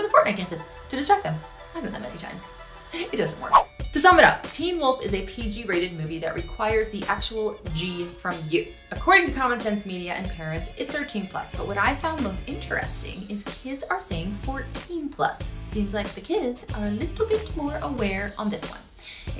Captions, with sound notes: the Fortnite dances to distract them. I'm done that many times. It doesn't work. (swooshing) To sum it up, "Teen Wolf" is a PG-rated movie that requires the actual G from you. According to Common Sense Media and Parents, it's 13 plus. But what I found most interesting is kids are saying 14 plus. Seems like the kids are a little bit more aware on this one.